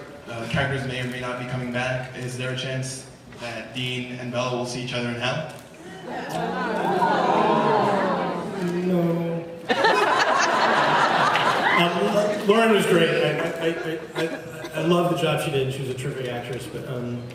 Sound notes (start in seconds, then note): 9.6 laughs